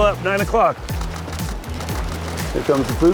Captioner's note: camera shutters clicking